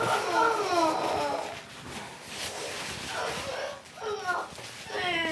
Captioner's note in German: weint